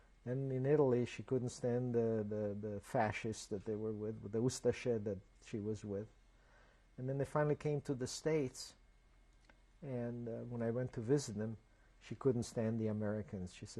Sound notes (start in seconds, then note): 4.6 non-english